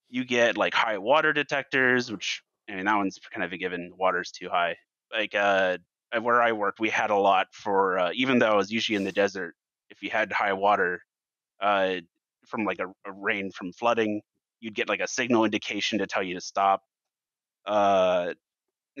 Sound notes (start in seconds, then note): none